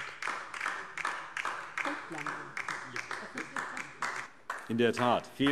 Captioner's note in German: Beifall DIE LINKE